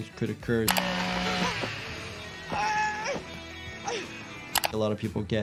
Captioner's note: chainsaw buzzing